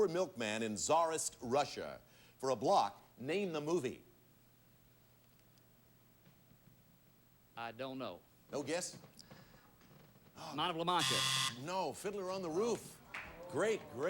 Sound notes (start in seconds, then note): 10.9 buzzer sounds